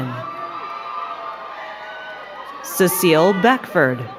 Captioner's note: crowd cheering and clapping